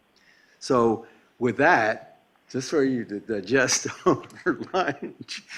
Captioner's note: laughter